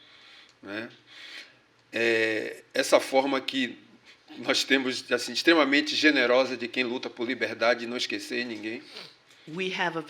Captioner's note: speaking portuguese